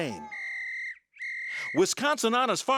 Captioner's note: whistle blowing